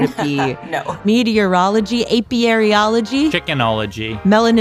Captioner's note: laughs